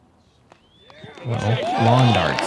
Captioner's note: cheering